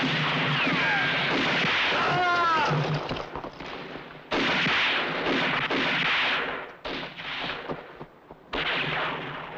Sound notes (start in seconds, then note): 0.1 guns firing; 1.9 groans